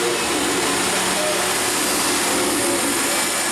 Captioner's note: engine steaming